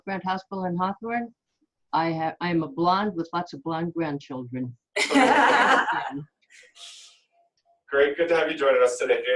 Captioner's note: laughter